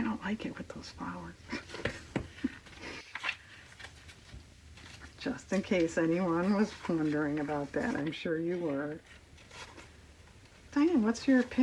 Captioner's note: laughs